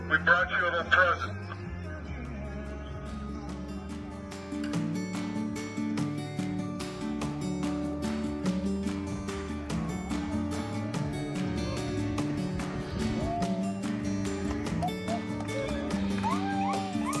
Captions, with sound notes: We brought you a little present. (lighthearted guitar music) (people cheering)